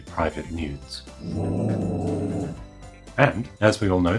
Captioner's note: dog growling